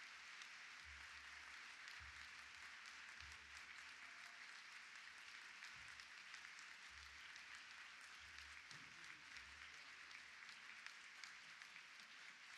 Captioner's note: applause